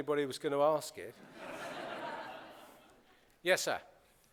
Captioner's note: laughter